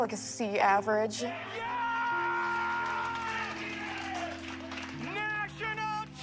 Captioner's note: applause